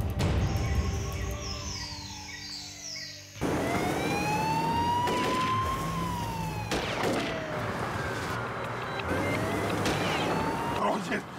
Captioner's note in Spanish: sonido de sirena; ruido de los vehículos